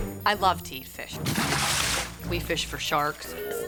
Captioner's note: water splashes